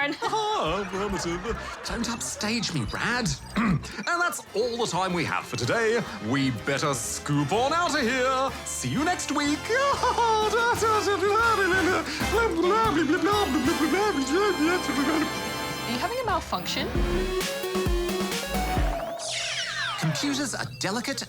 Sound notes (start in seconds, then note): 0.0 laughter; 0.1 chuckles; 1.7 quietly; 3.5 clears throat; 9.8 laughs; 12.2 jabbers